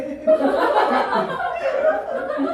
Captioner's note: Laughter